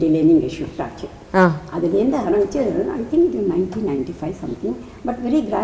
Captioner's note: in Tamil